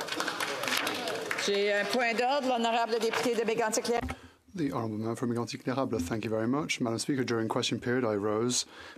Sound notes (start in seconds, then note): 6.2 speaking in French